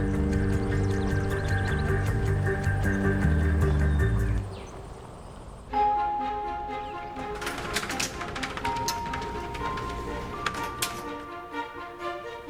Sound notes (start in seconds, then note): none